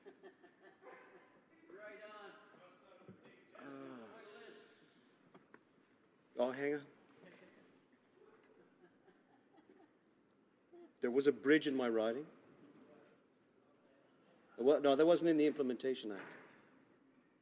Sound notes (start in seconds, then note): 0.0 laughter; 3.1 silence